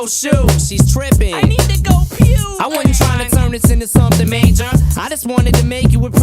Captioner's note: blehh